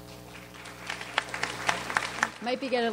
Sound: audience applauds

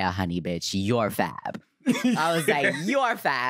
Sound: laughs

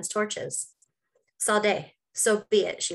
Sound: speaks Norwegian

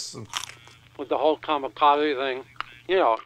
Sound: chewing

